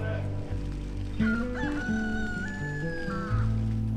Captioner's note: rooster crowing